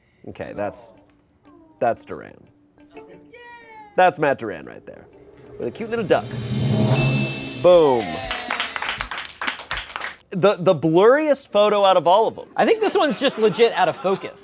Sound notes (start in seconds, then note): 5.5 bell dings; 8.0 audience applauds